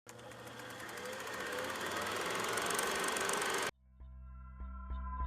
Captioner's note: sound of old film spooling